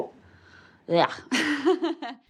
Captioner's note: gags, then chuckles